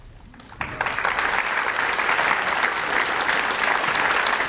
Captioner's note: audience applauds